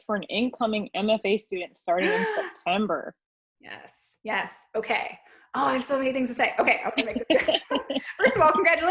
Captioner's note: excited gasp!